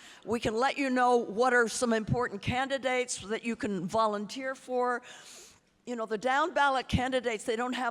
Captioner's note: none